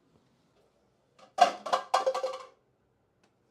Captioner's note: clattering